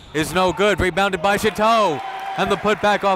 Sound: applauding

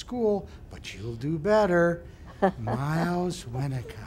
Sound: Mrs. Claus laughs

